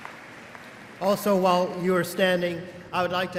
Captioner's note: applause